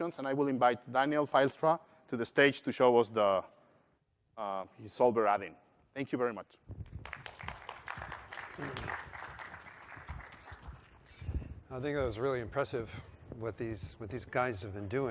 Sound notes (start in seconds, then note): 11.9 applause